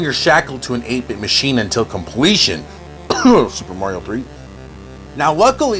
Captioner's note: cough, Super Mario 3